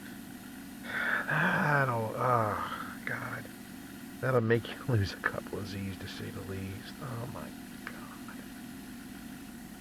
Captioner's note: sigh